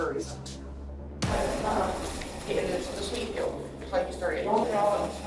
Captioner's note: inmates chattering